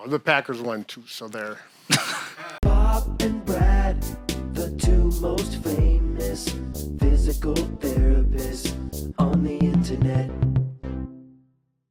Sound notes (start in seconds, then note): 1.8 chuckles